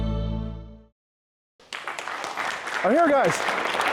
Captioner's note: applause